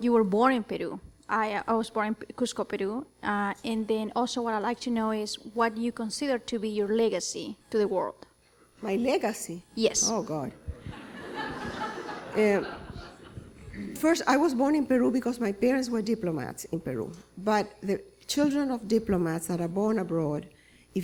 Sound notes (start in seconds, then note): 10.6 laughter